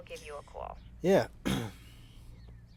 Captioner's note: clears throat